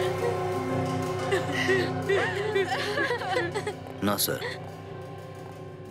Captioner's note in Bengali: সশব্দ হাসি